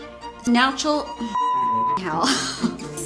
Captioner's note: beep